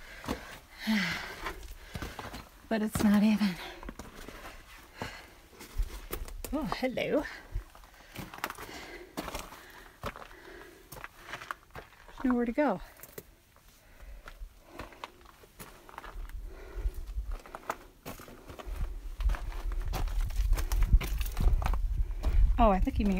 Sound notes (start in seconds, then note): 0.7 sighs; 8.8 crunching